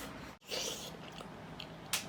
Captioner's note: big slurp